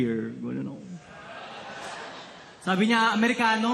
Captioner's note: audience cheers